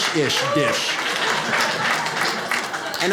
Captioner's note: audience laughs